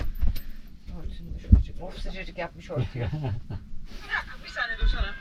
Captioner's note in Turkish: kahkaha